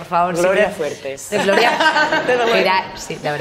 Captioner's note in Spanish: Risas